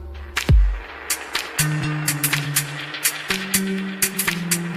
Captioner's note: applause